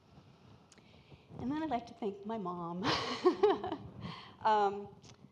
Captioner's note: laughs